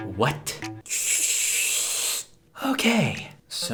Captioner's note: more obnoxious sipping; sigh